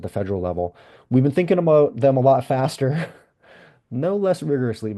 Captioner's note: laughs